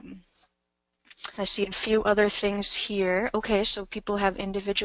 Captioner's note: voiceover